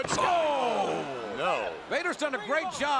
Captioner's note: commentators exclaim